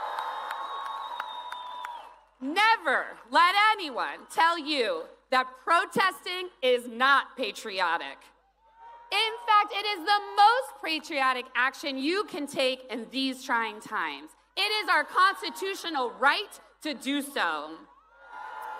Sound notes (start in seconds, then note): 4.0 cheers and applause